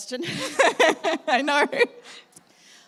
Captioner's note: laugh